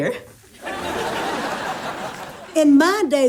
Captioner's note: audience laughs